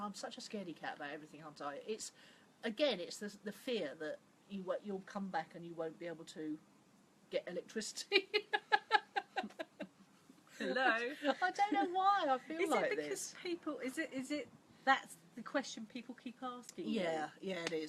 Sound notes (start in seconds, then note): 8.1 laughs